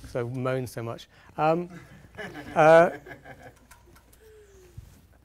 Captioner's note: audience laughing